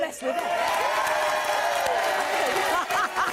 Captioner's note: audience cheering; laughs